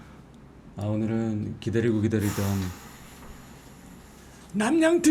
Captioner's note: sighing